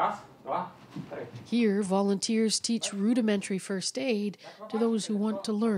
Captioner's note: speaking Foreign Language